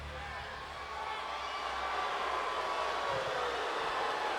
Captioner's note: crowd cheering